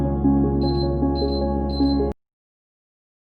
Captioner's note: beeping